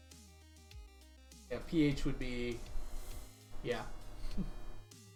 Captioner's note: chuckles